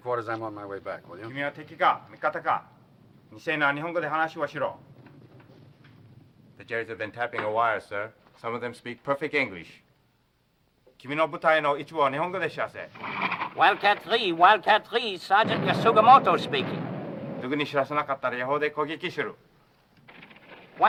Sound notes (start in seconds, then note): 1.5 speaking foreign language; 10.7 speaking foreign language; 17.6 speaking foreign language